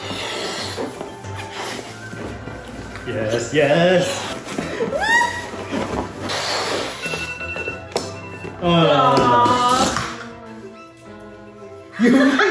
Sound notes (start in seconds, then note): 0.1 air whooshing; 7.1 timer buzzing; 11.9 both laughing